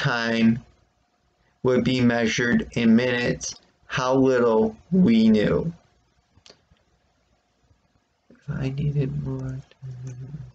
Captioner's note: murmurs